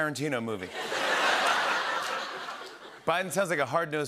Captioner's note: laughter